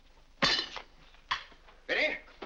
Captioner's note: silverware clangs